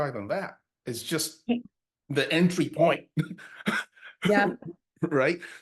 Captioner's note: laughs